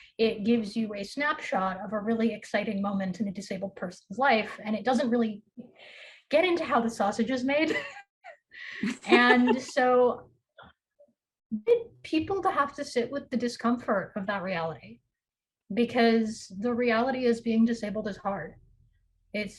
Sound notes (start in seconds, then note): 8.8 chuckles; 8.8 laughs